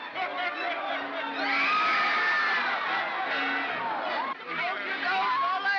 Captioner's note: commotion; screaming & commotion